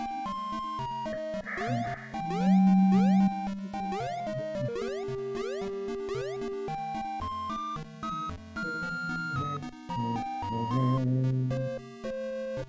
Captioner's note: humming along